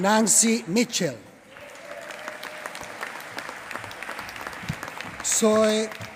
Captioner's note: applause